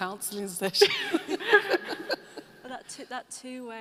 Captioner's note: laughing